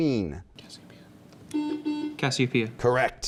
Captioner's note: buzzing